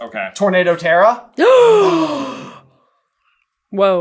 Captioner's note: gaaaaaaaaaaasp